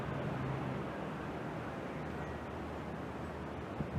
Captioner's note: city traffic noise in background